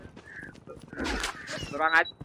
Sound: heavy breath

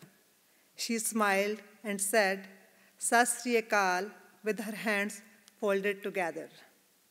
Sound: non-English

